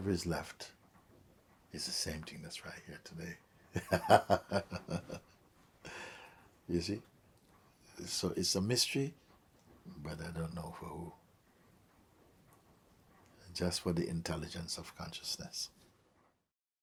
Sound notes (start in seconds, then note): 3.7 laughs